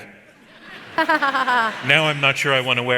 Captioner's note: audience laughs